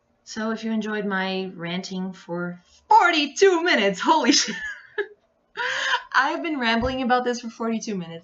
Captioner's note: laughs